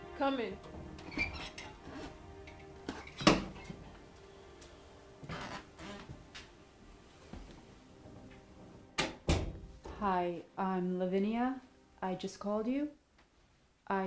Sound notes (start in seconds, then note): 1.0 door squeaks open; 9.0 door clicks closed